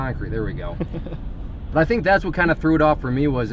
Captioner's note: laughs